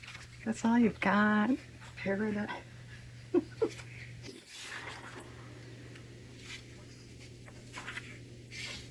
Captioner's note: laughs